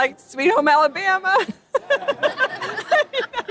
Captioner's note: laughs